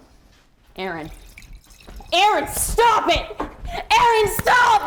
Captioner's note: liquor pouring